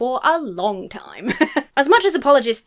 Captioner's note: laughs